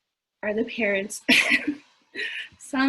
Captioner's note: laughs